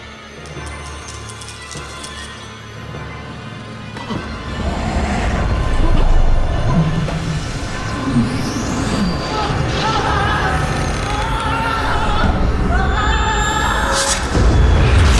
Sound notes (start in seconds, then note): 1.0 gasps; 1.0 marbles rattling; 6.2 ominous orchestral music; 10.1 dramatic orchestral music; 10.1 screams